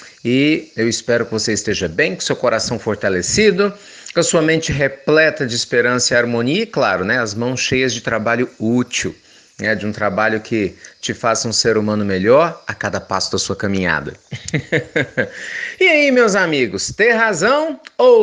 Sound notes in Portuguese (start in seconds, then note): 14.2 risos